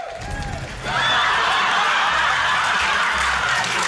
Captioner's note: rapturous laughter, applause